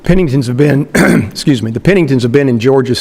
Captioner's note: clears throat